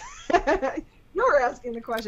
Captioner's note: laughter